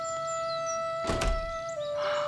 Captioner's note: door closes